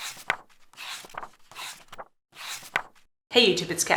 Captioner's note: pages turning